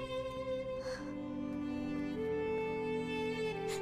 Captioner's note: Fatima crying